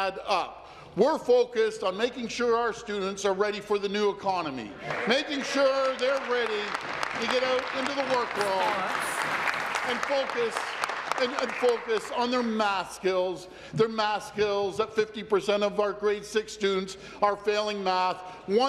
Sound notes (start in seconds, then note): 10.1 applause